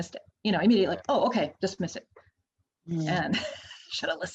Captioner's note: laughs